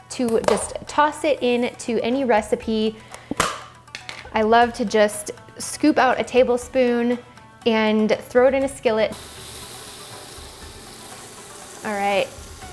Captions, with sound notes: to just toss it in to any recipe, (pops) I love to just scoop out a tablespoon, and throw it in a skillet, (sizzling) ,all right.